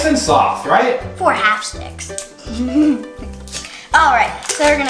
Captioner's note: giggles